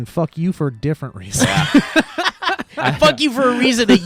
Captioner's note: guys laughing